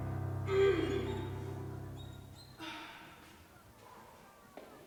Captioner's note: Sanford grunting